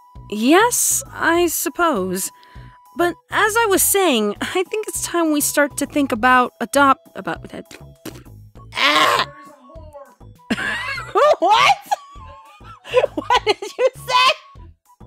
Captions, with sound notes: Yes, I suppose. But, as I was saying, I think it's time we start to think about adop- (stutters profusely) AAAAAGH! (laughs) WHAT?! What did you say?!